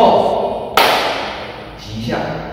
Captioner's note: clap